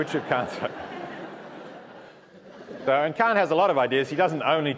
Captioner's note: laugh